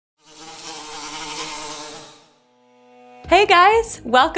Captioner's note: buzzing